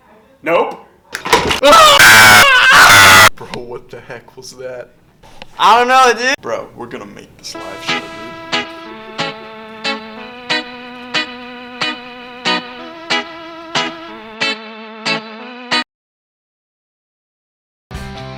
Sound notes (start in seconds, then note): 1.6 screaming